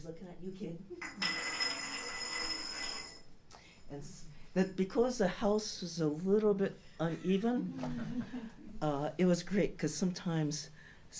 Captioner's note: rolling, rattling sound